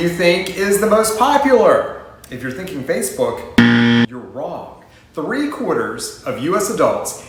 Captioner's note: buzzer noise